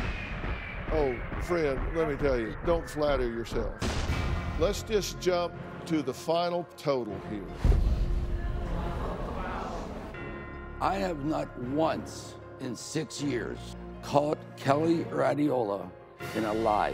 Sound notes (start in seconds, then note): 8.7 audience murmuring